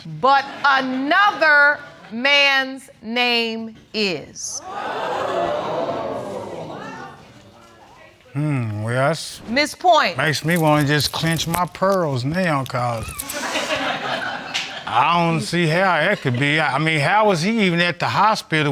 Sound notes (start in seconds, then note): 4.7 audience exclaiming; 13.3 audience laughs